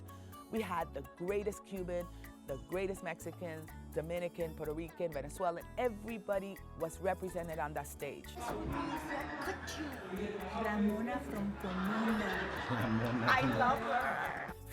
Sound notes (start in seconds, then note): 8.2 speaking Spanish